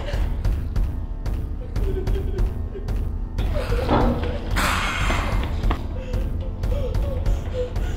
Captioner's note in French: Pas et rugissements